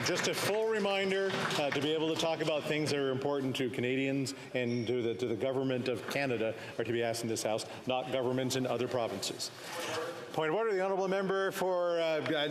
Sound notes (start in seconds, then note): 2.7 some Applause